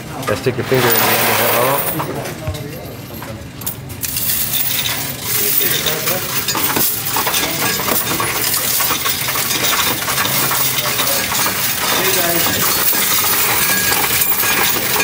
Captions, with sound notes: Gotta stick your finger in the end of it, oh. (coins rattling)